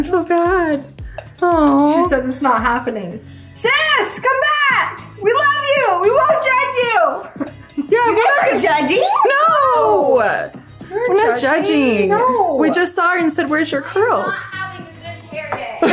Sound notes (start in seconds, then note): 7.2 laughs